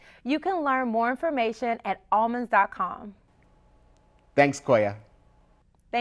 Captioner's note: none